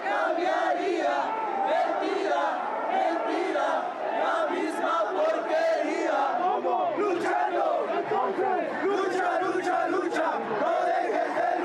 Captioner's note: chanting in Spanish